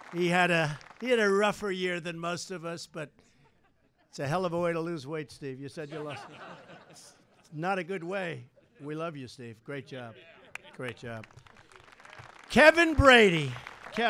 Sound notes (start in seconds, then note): 5.8 laughter